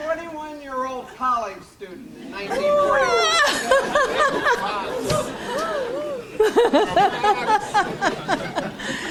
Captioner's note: audience laughs